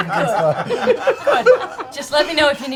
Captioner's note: laughter